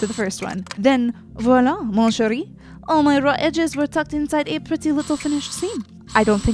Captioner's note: spoken in a bad French accent